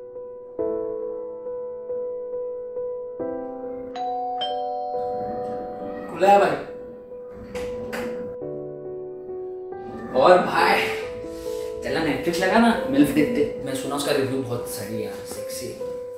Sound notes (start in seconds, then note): 3.9 door bell